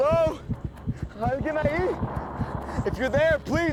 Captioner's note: speaking spanish